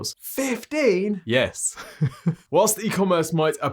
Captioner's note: laughing